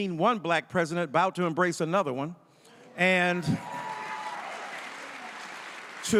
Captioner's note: audience cheering